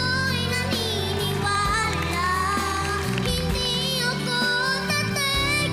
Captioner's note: applause, cheering